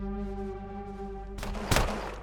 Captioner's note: gunshot